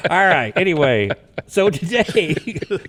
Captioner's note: all laugh